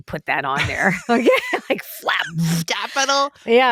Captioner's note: both laugh